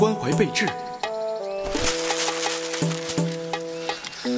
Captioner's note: sound of paper being crumpled